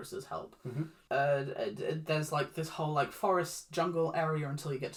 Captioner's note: understanding noises